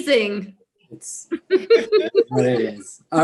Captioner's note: laughs